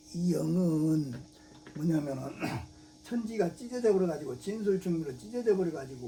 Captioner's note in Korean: 목을 가다듬음